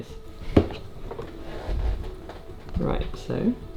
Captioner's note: water bottle thudding